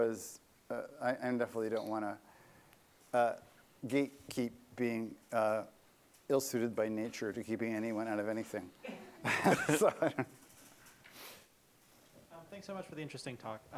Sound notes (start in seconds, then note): 8.8 laughter